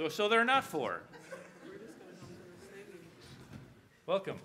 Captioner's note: audience chatter